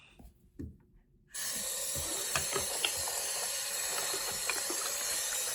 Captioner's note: water running